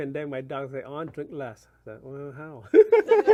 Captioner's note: laughs